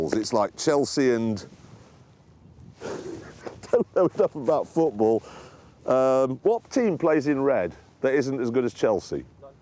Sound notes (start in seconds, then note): 4.1 laughs